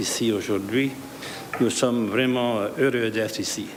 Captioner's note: speaking French